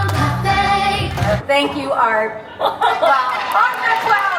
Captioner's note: host laughing